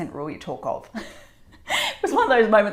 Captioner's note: laughing